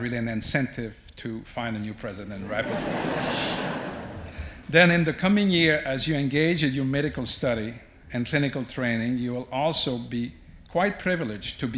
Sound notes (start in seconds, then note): 2.4 audience laughs